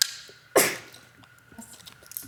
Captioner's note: participant sneezes